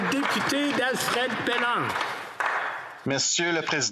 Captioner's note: some Applause